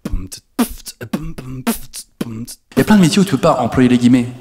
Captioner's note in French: beatbox